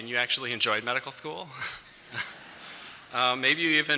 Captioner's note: laughter